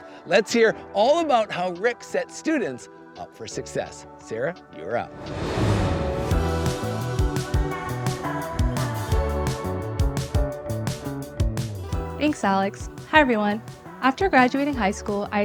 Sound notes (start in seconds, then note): 4.8 upbeat music; 5.1 graphics whooshing